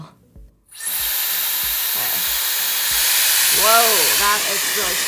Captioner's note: dryer whirs